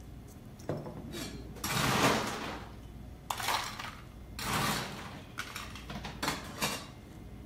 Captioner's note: ice scooping